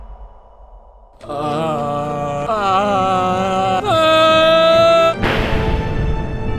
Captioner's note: increasing Groans of Nausea and Discomfort